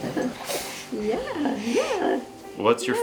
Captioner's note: makes cute noises at baby